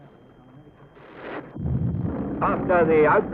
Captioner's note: explosions